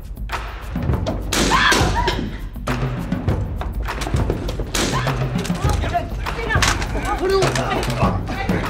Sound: gunshot and cry; gunshot, scream, chair falling, scream, thud; shouts

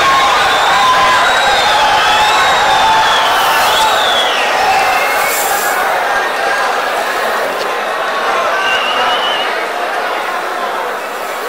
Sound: wild applause and cheering for 22 seconds

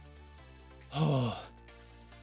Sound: sigh of relief

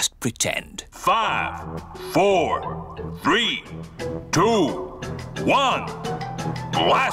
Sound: on speakers

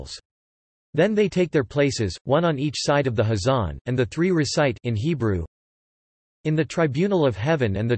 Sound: in Hebrew

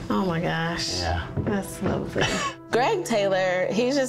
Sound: laughs

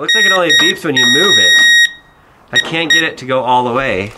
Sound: loud beeping

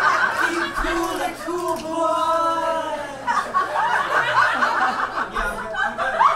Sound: audience laughs

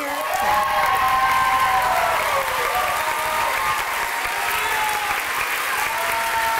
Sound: applause

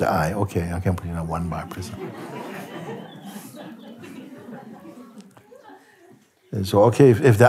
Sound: laughter

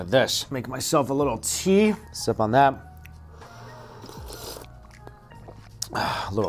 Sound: slurps tea

